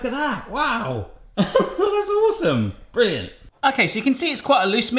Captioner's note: laughing